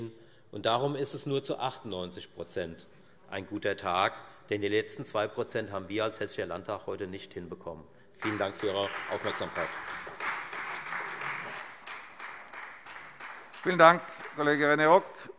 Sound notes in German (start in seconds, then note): 8.2 Beifall Freie Demokraten